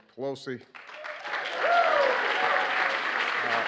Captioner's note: applause